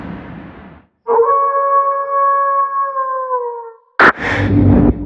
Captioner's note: wolf howls